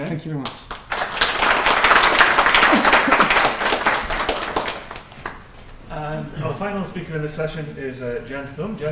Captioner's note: applause